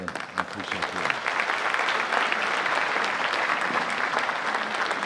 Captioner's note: audience applauding